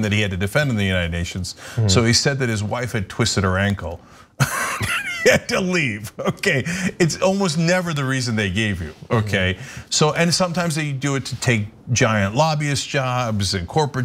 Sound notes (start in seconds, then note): 4.4 laugh